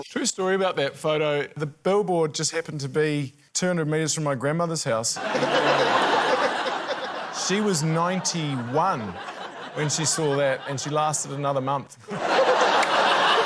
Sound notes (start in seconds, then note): 5.2 laughter